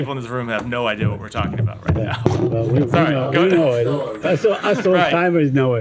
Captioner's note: laughter